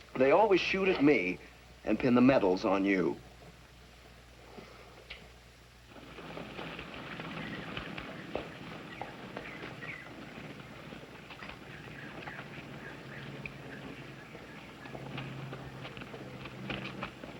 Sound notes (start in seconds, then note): 7.5 birds chirping